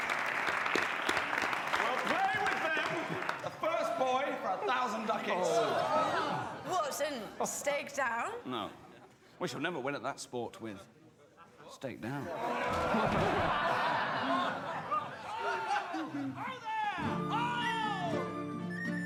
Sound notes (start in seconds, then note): 12.4 laughter